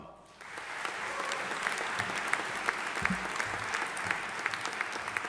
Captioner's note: audience applauding